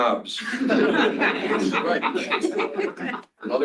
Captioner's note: laughter